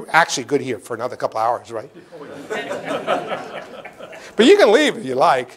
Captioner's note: laughter